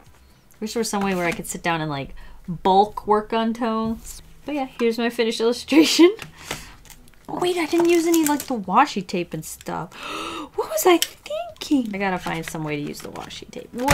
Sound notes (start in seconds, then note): 5.9 laughs; 9.9 gasps